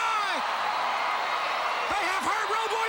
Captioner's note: crowd cheering